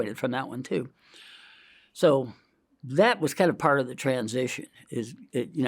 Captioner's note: inhales